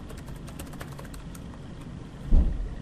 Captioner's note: typing